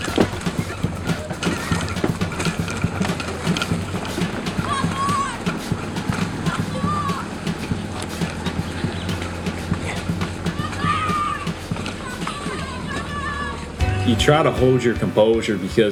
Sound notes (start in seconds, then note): 0.1 drum beat; 4.6 kids shouting